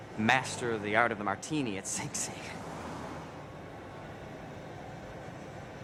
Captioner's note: chuckles